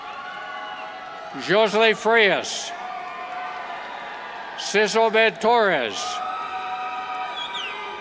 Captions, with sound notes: Josely Frias, Sis Obed Torres, (cheers)